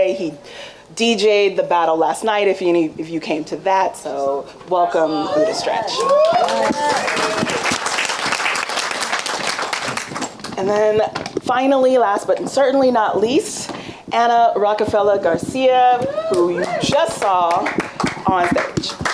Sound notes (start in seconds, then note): 5.2 audience applauding and cheering